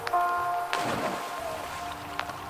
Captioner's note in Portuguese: trilha sonora esperançosa; splash na água; trilha sonora esperançosa